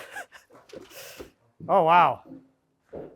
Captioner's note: speaker laughing